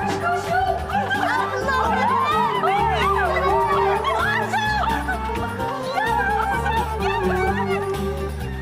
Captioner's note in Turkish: Sevinç çığlığı sesi